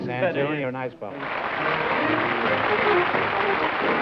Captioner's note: applause